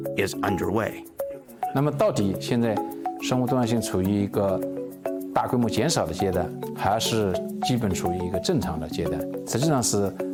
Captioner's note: speaking Chinese